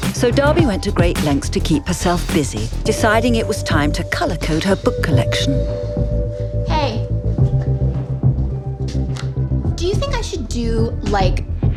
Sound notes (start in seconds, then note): 6.0 sighs; 7.3 mellow music